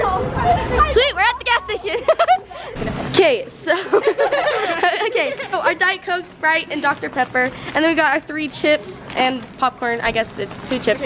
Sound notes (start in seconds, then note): 3.7 laughing